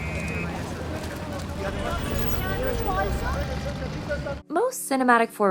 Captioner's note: street noises